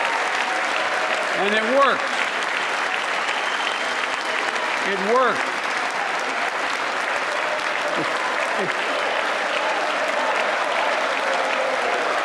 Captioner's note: cheers and applause